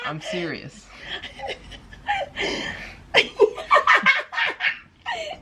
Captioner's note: chuckling